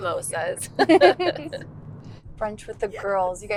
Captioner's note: Lara and Georgia laugh